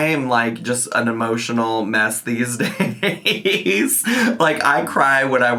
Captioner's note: laughs